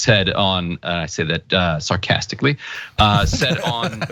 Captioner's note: laugh